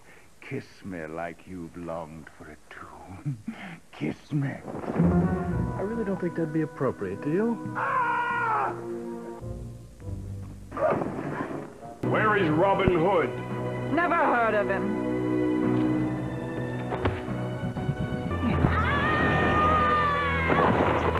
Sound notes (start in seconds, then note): 7.7 screaming